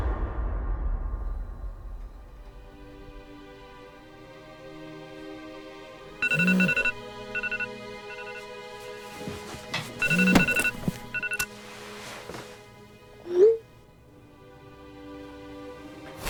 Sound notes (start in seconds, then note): 6.8 phone alarm